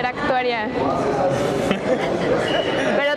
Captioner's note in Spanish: risas